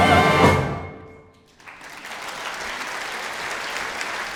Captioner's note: applause